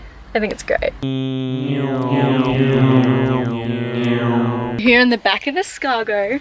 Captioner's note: more meme car sounds